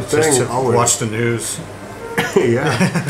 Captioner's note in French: Rires